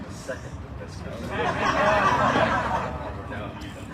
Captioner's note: audience laughs